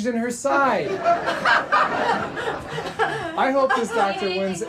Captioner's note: audience laughing; Gina laughing